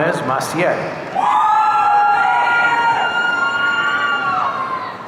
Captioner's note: audience cheering